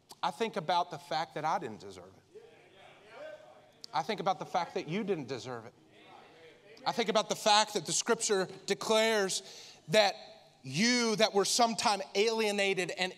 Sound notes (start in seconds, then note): 2.4 congregants affirming